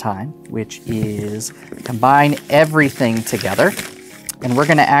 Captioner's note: tiles clattering